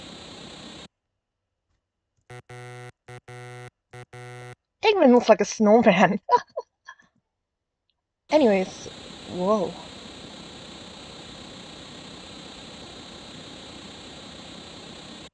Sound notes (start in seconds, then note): 0.0 static; 2.2 Sonic 3 menu error sound; 8.3 static